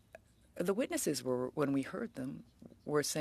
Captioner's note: speaking French